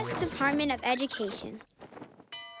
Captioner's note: school bell rings